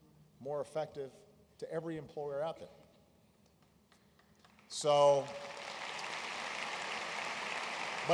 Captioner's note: applause